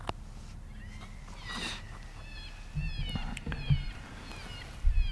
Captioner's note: cottontails squealing